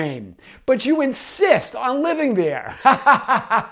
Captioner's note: laughs